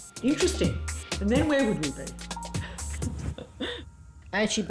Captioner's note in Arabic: يضحك